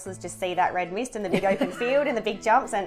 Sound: laughing

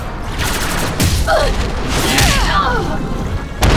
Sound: fighting grunts and impacts

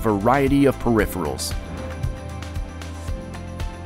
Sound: screen whooshes; bright music

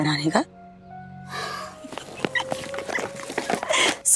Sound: chuckling

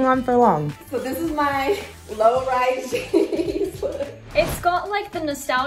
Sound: laughs

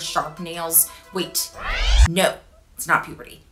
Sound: swooshing

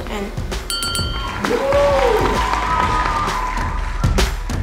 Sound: applause

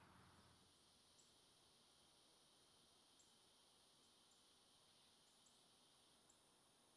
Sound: cicadas humming

